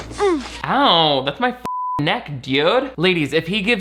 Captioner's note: Mia moans; beep